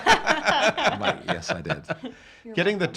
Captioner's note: laughing